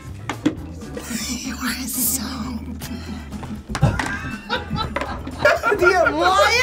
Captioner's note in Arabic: الجميع يضحكون; تضحك